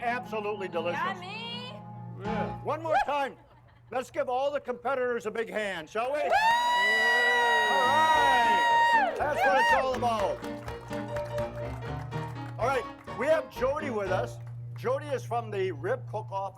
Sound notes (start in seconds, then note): 5.2 crowd applauding; 5.2 crowd cheering; 9.2 upbeat piano music